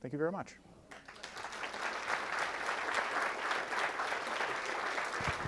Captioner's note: audience applauding